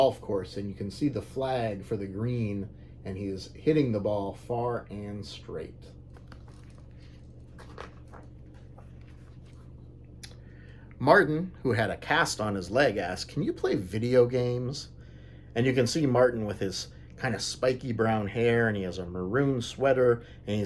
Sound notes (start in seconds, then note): 7.8 page turns